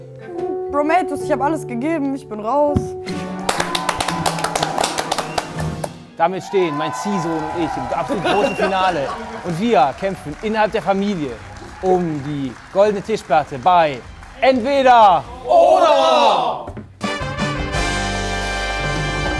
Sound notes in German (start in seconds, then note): 3.2 Abfallende Klänge, Jubel, Applaus; 16.8 Lässige Musik